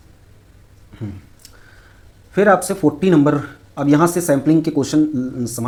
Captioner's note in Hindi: गला साफ़ करने की आवाज़